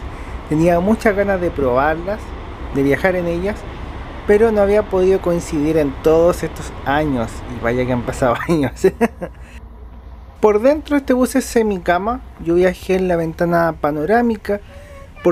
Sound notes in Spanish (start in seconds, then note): 8.8 risas